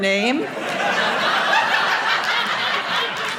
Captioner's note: audience laughing